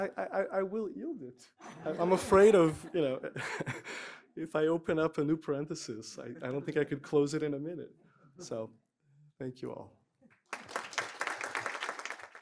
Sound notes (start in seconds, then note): 10.4 applause